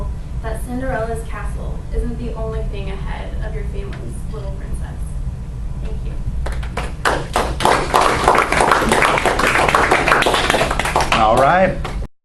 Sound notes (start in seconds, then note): 6.5 audience applauds